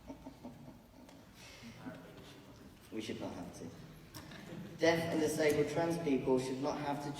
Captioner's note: laughs